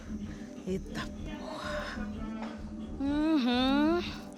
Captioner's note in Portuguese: tom de admiração